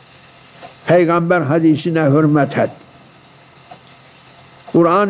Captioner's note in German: saws